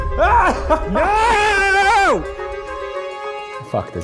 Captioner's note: screaming